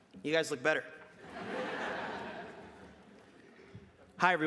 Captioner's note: laughter